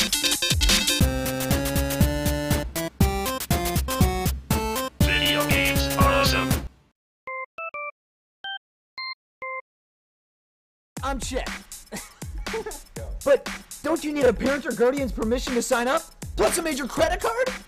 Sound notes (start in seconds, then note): 11.9 laughs